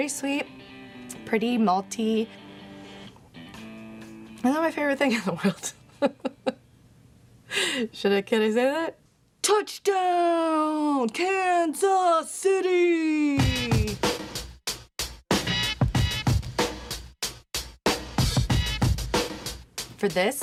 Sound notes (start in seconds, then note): 5.4 laughs; 13.4 upbeat hip hop music